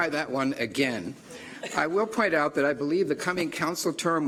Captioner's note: laughter